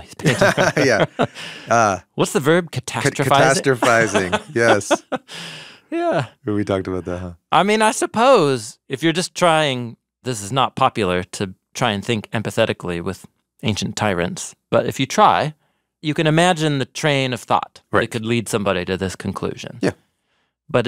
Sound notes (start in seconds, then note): 0.2 laughing; 3.1 laughing